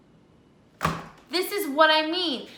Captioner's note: soft thud